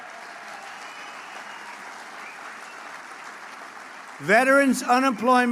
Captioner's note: applause